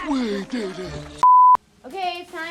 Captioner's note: beep